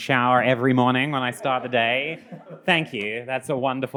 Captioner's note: attendees laughing